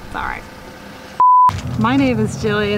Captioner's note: beep